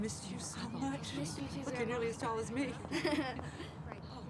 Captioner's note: brandon laughs